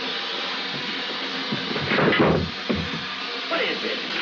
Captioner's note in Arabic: يستمر صوت الموقد; تمثال يسقط ويضرب الأرض